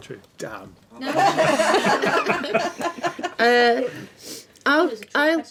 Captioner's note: laughing